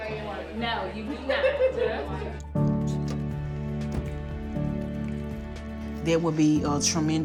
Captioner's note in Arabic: يتحدث بصوت مكتوم